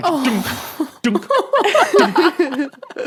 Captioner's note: guests laughing